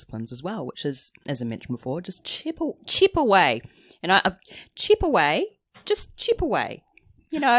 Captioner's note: australian accent